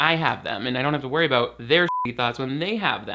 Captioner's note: beep